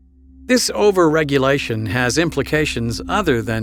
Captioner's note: voiceover